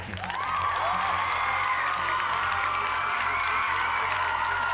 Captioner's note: cheers and applause